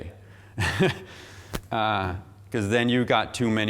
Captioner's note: laughing